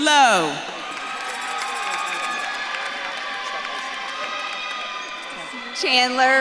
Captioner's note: audience claps and cheers